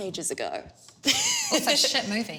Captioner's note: laughs